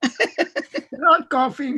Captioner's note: laughs